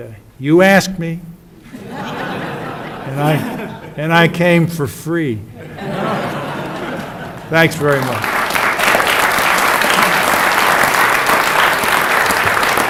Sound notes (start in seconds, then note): 5.6 audience: Laughs; 6.6 audience: Claps